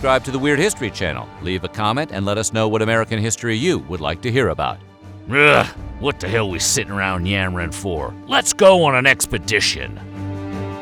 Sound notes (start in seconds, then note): 5.2 gruffly